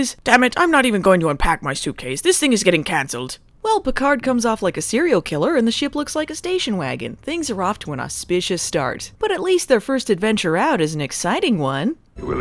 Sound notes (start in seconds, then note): none